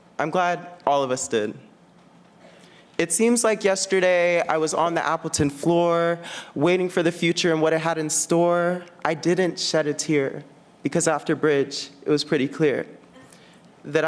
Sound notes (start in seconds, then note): none